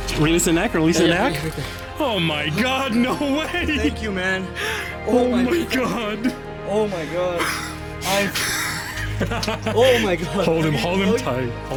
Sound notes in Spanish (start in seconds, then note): 5.9 Al unísono; 8.2 Risas